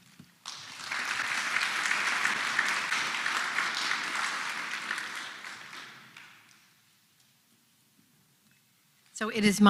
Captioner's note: applause